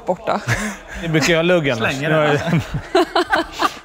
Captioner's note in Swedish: skratt